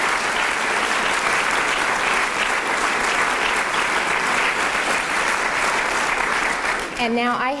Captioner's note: applause